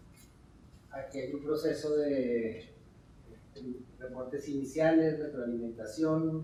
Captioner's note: speaking in Spanish